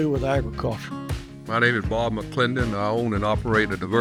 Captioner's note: televison broadcast audio